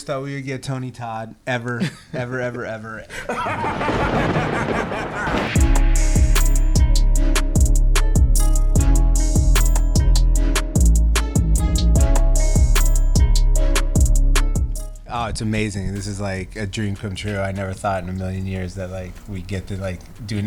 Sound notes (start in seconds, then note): 3.1 Tony Todd laughter; 5.4 upbeat music